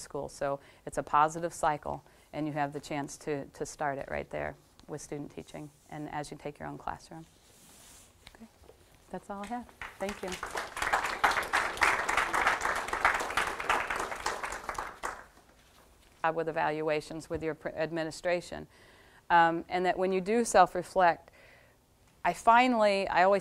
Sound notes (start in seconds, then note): 9.8 audience applause